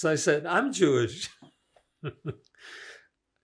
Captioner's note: laughing